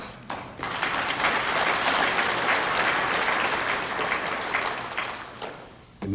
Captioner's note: applause